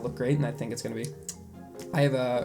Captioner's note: kisses